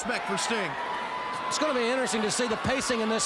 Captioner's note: crowd cheering